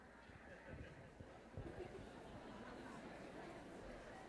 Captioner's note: crowd chattering